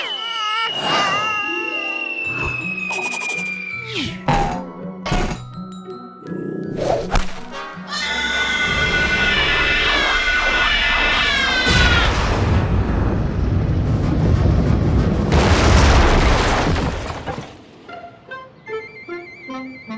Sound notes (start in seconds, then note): 0.0 crying; 7.9 cries